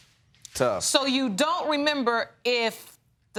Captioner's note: none